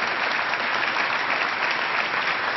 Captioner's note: applause